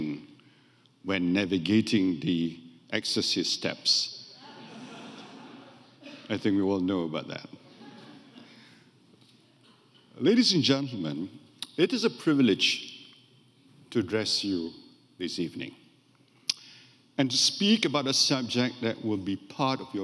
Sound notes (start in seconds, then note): 4.4 audience laughing; 7.6 audience laughing